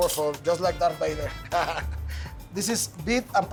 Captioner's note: chuckles